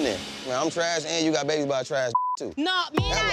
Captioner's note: beep